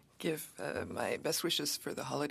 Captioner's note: speaking French